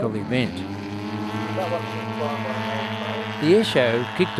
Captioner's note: model aircraft sounds